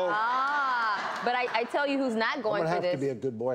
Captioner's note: audience laughs